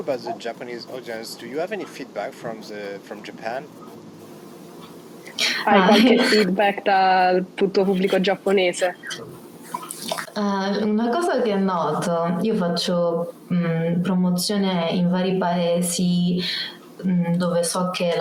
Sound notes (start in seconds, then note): 5.3 speaks Italian